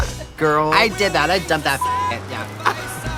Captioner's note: beeping